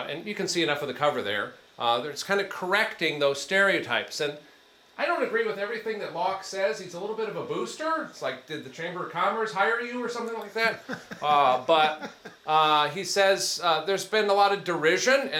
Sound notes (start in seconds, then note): 10.7 attendee chuckles